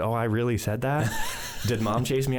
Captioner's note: chuckles